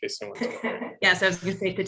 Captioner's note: laugh